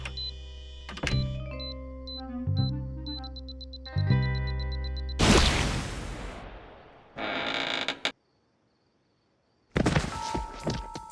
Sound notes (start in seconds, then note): 3.0 accelerated beeping; 5.2 explosion; 7.1 creaking; 9.6 thud